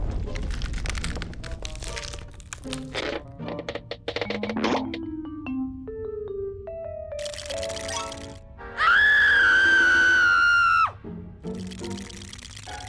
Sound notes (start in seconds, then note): 7.2 teeth chattering; 8.7 screams; 11.4 shivering